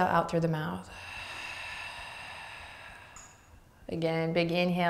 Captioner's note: exhaling breath